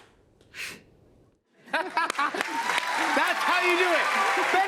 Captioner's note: laughs